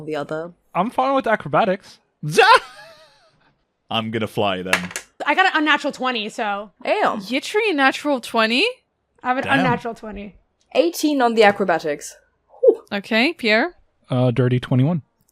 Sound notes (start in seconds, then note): 4.0 laughs; 4.7 dice clacks